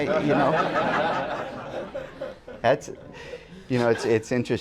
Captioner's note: laughter